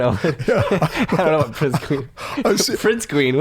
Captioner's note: laughter